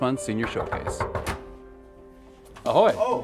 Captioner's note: knocking; Spanish